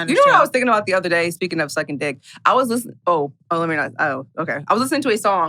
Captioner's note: stammers